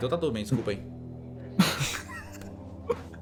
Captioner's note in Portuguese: riem